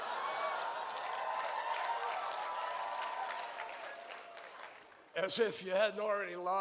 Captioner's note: cheers and applause